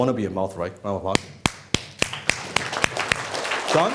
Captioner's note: applauding